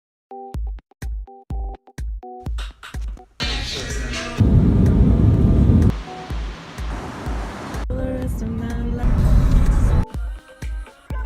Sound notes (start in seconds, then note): 0.4 upbeat music; 3.5 airplane engines; 5.9 waves crashing